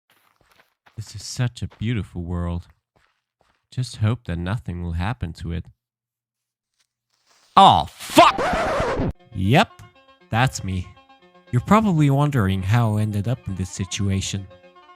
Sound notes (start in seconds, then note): 7.2 creeper hissing; 8.0 record scratching